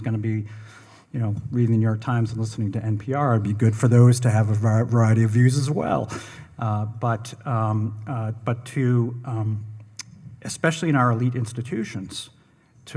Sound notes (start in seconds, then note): none